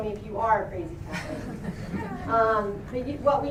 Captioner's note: laughter